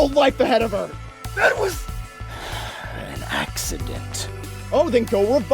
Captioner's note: exhales